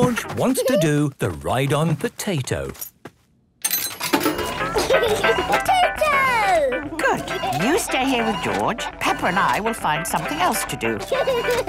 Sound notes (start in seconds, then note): 4.6 giggling; 10.9 George giggles